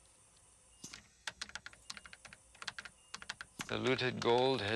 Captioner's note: keys clicking